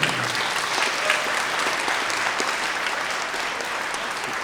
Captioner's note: everyone applauding